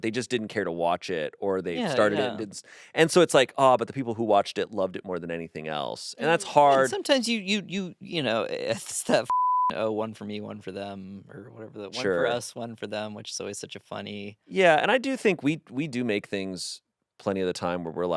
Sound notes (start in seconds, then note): 9.2 beep